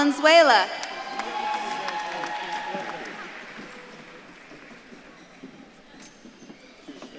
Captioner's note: audience claps and cheers